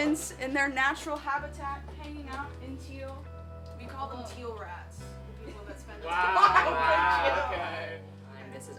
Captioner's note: laughter